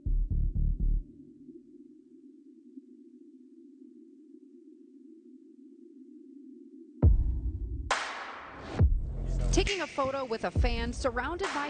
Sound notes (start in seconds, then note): 2.8 air whooshing faintly; 7.6 gentle mellow music